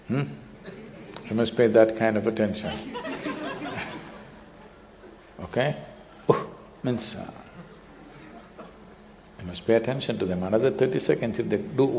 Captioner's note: laughter